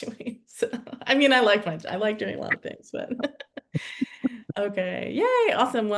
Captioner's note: chuckles